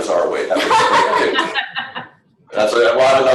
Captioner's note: people laughing